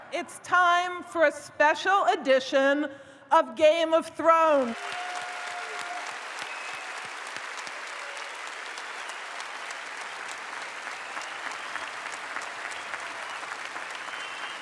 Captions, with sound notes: It's time for a special edition of Game of Thrones. (audience applauds)